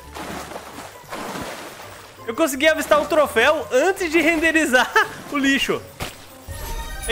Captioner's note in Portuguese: risos